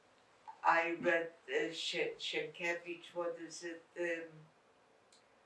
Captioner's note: non-english